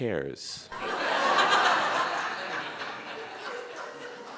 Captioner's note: audience laughing